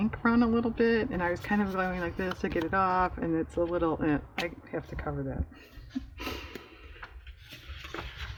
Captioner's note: laughs